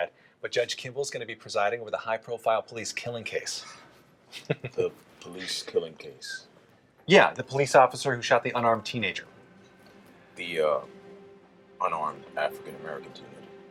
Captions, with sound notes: but Judge Kimble's gonna be presiding with the high-profile police killing case. -[chuckles] -The police killing case? Yeah, the police officer who shot the unarmed teenager. The unarmed African-American teenager?